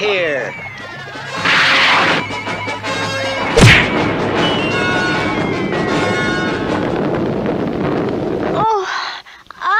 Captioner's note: smack!